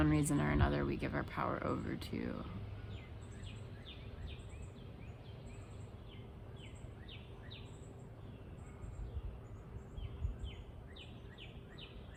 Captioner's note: birds chirping